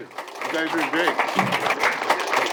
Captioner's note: applause